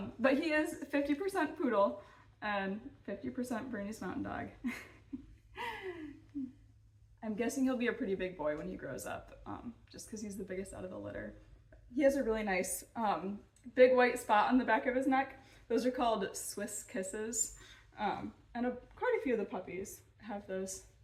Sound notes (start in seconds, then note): 4.6 chuckling